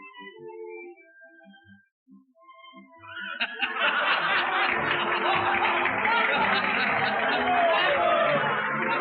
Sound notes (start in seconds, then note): 3.0 laughter, applause; 6.0 orchestra continues playing